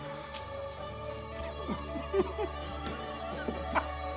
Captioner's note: laughs